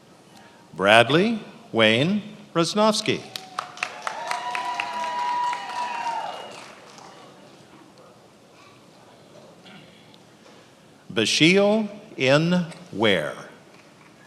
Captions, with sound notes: Bradley Wayne Roznovsky. (attendees applauding and cheering) Basheel N. Ware.